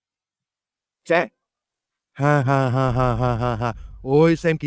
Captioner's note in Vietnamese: tiếng cười